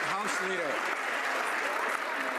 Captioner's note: some Applause